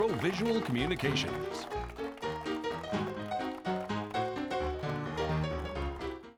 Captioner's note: audience applauds; jaunty piano outro music